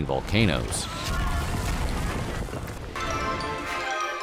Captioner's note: people screaming